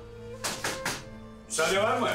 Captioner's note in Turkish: Kapı çalar